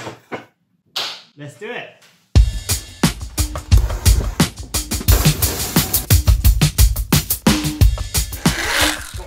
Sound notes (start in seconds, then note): 1.4 claps; 6.0 intro music